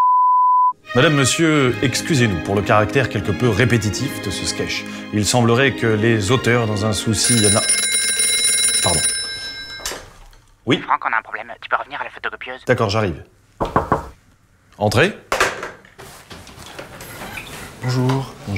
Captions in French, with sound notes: Madame, Monsieur, excusez-nous pour le caractère quelque peu répétitif de ce skech Il semblerait que les auteurs dans un souci na... (le téléphone sonne) Pardon. "Frank, on a un problème. Tu peux revenir à la photocopieuse ?" D'accord, j'arrive. (toc toc toc) Entrez ? Bonjour...